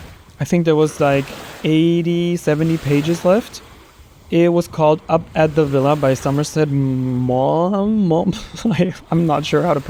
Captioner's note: laughter